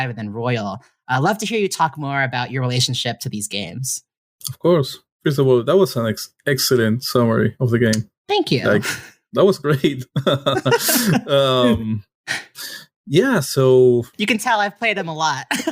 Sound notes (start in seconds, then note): 9.4 chuckles